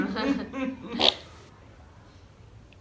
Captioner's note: fart